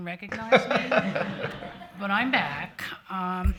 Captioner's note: audience laughing